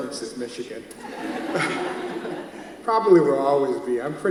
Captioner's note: audience laughs